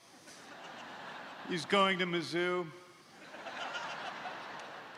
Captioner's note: laughter